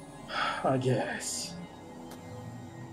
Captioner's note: sighs